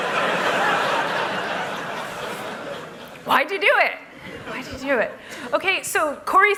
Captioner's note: laughter